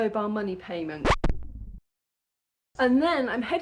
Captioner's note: record scratch